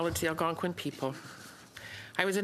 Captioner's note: speaking in french